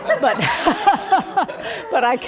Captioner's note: laughter